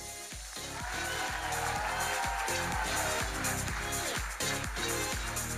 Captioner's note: audience cheering and applauding